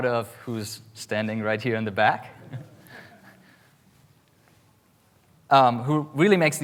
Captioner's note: laughs